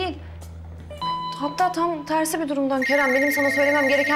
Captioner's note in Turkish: Telefon çalıyor